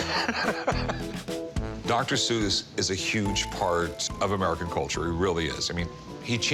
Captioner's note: laughs